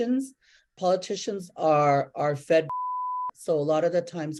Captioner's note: beeps